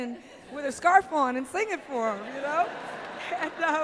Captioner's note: laughter